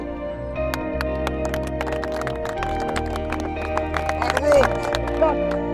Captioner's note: group clapping